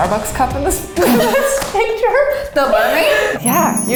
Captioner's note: all laugh